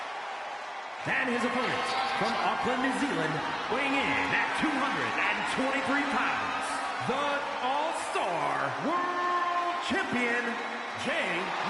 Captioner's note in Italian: applauso